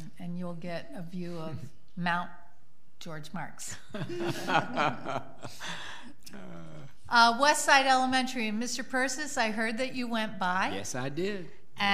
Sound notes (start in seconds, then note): 3.8 people laugh